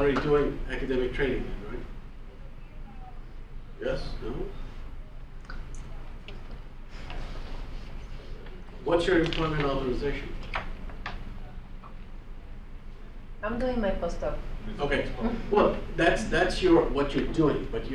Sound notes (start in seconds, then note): 13.6 voiceover